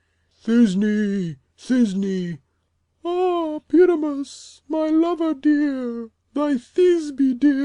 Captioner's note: then speaking small